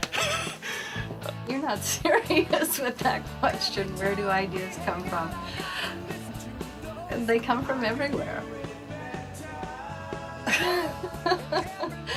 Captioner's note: laughs; laughs